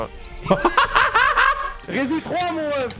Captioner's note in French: Rires